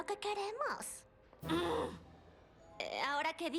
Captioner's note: snarl